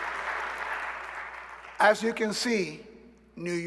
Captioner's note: applause